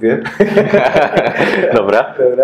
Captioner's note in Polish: śmiech